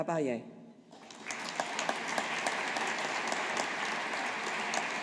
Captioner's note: audience applauding